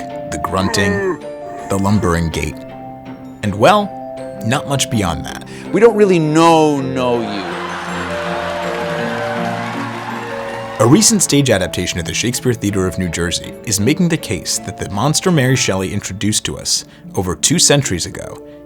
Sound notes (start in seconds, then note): 7.4 laughter